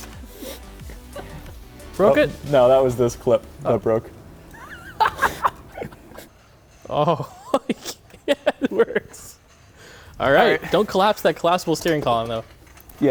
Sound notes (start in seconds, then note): 0.3 muffled laughter; 4.4 laughing; 7.8 laughs